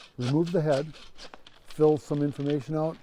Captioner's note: saw scraping